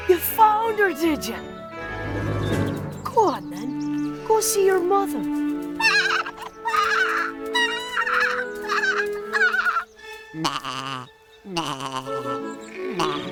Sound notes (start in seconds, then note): 5.8 Little Baa squeals with joy